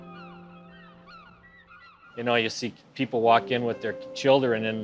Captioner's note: birds calling; tender instrumental music